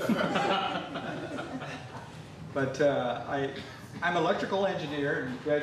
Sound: laughter

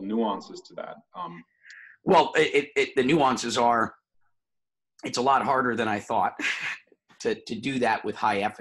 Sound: laughs

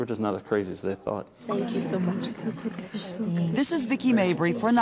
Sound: speaking in tongues

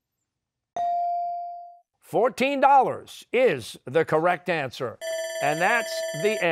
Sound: bell ringing

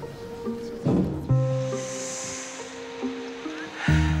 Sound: inhaling; exhaling

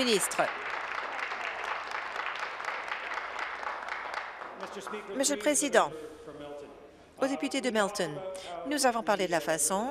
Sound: applause

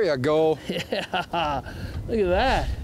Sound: laughs

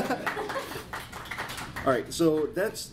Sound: applause

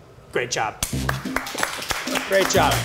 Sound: crowd applauding

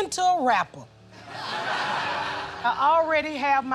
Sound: laughter

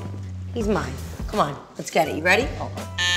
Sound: buzzer ringing

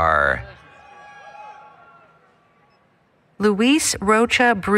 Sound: applause, Cheering

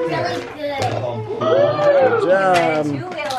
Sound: crowd

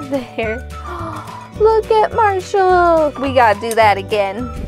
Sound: gasp

